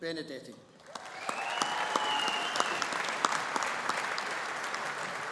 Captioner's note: audience applauding